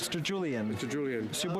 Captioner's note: speaking French